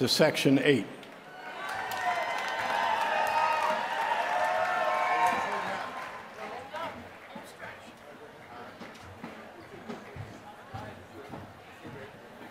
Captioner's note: applause